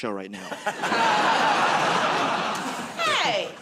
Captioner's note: laughter